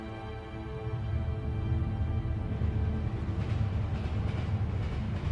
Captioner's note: train rumbling